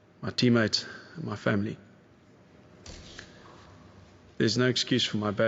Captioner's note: clicking